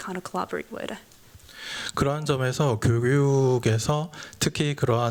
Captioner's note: speaking japanese